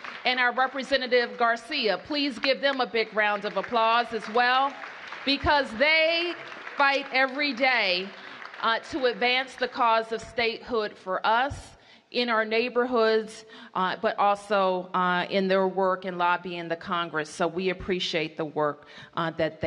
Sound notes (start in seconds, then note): 4.5 applause